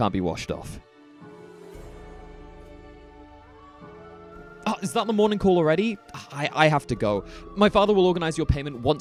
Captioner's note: distant bell rings